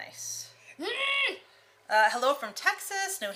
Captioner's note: exclaiming